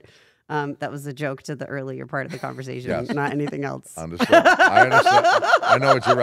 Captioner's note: laugh